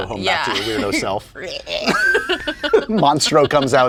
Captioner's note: monster sound